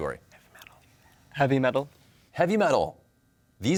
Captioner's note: whispers